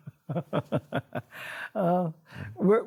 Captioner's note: laughs